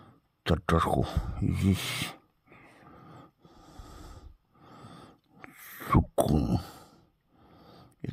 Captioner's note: in Arabic